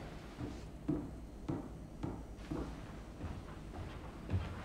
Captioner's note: footsteps retreating